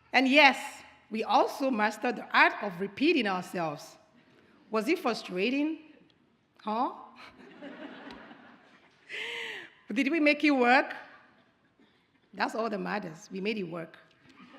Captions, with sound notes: And yes, we also mastered the art of repeating ourselves. Was it frustrating? Huh? (audience chuckles) Did we make it work? That's all that matters. We made it work.